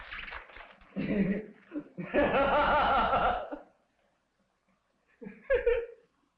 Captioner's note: Pepe maniacally laughing